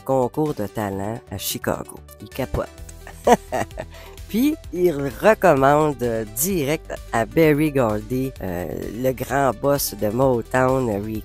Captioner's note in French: rires